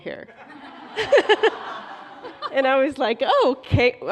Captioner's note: laughter